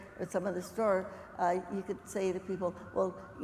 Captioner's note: none